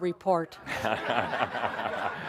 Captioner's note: more laughter